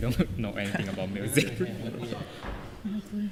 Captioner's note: laughing